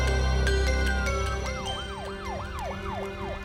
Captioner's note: siren